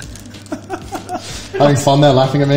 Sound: laughs

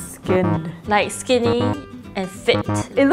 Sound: buzzer buzzes

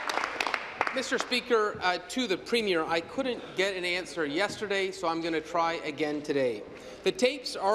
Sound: applause

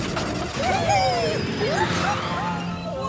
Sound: whirring; laughter

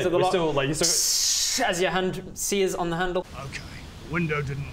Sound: tssssssssss

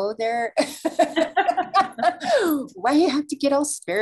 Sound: both laughing

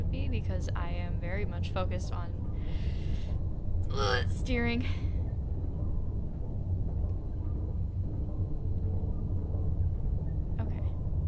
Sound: pained grunt

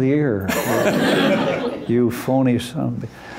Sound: laughter

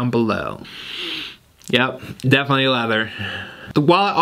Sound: sniffing

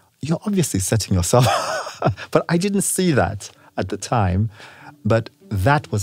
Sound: laugh

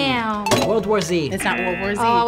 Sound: bell dinging

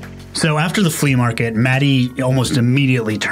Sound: voiceover

